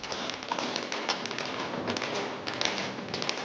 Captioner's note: tap dancing